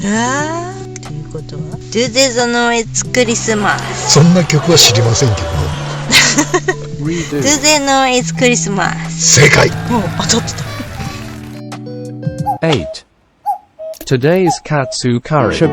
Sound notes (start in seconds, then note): 9.3 laughs